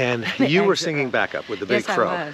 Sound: laughing gently

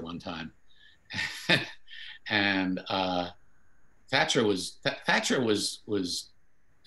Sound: chuckles

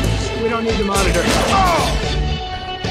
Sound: Peter screams

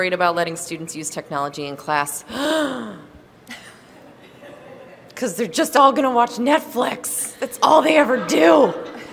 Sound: dramatically gasps

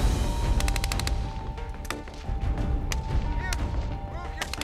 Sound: gunfire

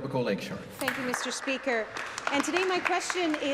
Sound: applause

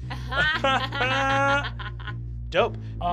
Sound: laughing

